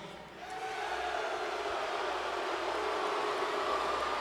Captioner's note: audience booing